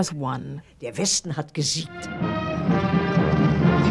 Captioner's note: speaking german